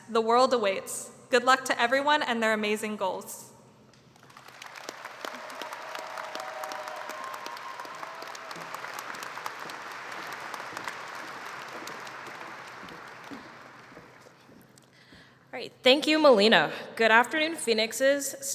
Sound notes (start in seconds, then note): 4.1 applause